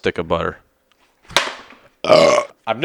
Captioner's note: butter box throwing sounds; burp